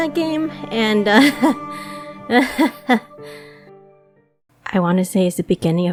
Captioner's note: nervous laughter